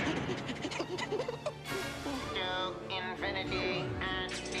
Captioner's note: snickering